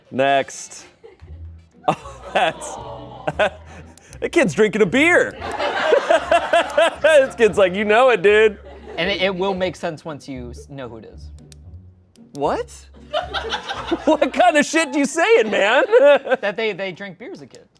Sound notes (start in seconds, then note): 2.8 audience exclaims; 5.3 laughter